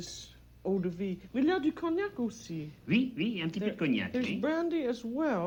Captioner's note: both conversing in French